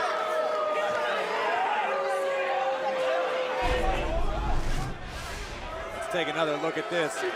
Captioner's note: crowd cheering